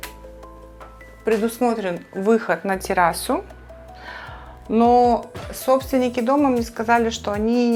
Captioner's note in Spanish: suspiros